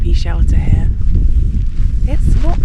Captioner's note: wind